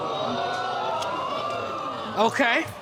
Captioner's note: audience exclaiming